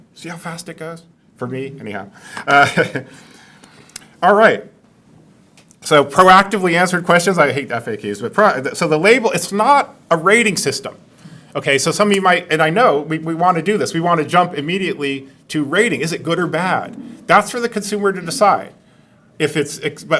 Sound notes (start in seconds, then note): 2.4 laughs